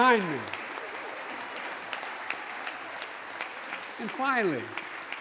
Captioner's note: applause